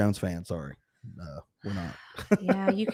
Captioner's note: laughing